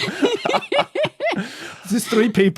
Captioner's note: group laughing